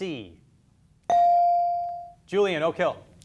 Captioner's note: beep